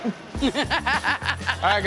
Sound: laughs

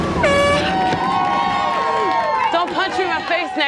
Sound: on-lookers cheeering

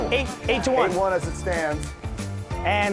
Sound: none

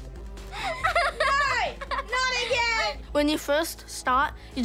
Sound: laughs

